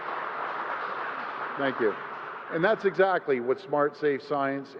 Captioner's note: applause